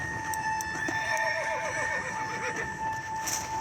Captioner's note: screepy Music; frightened Horse Scream; screepy Music